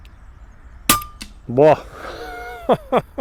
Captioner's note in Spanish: risas